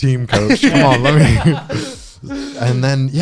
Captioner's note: guys laughing